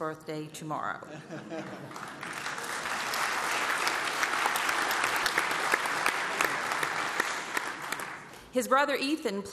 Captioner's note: applause